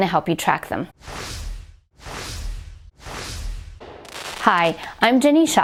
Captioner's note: whoosh, whoosh, whoosh